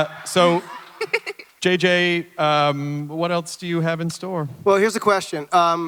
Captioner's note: Ridley laughs